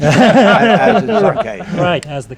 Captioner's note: laughter